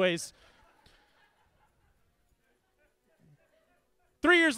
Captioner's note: audience laughing